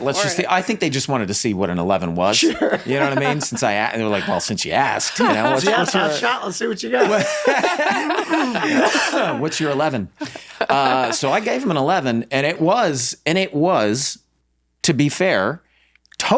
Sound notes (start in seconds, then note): 2.9 laughs; 6.8 everyone laughs